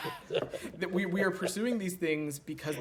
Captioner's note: laughter